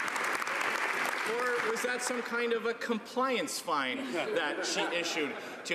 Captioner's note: some Applause